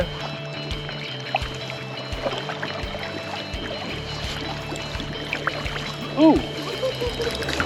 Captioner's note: splashing